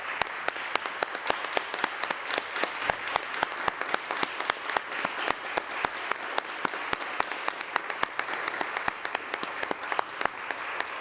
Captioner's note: applause